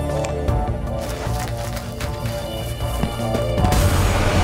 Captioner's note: footsteps pattering